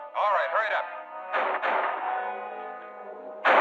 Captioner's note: gunshots